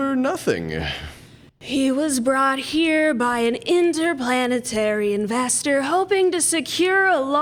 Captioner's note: demon voice